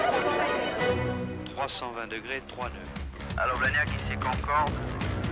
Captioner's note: speaking French